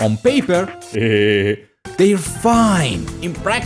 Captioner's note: heheh